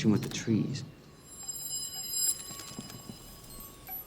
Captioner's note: trees creak